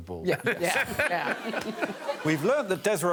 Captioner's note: laughter